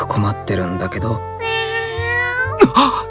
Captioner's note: meow~